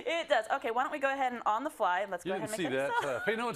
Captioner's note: laugh